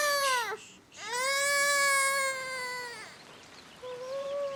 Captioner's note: Jack crying